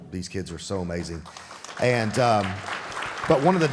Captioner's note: audience applauding